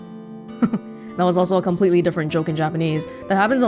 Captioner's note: chuckles